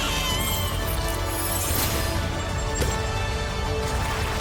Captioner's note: squeals